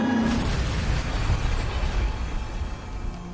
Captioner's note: plane crashes